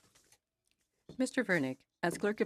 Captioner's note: speaking in French